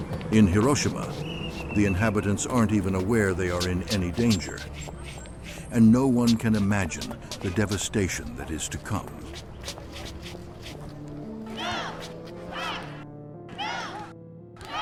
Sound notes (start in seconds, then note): 9.6 street sounds